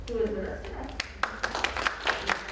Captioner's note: audience applauds